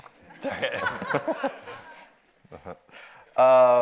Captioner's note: audience laughs